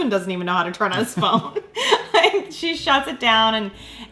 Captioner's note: laughing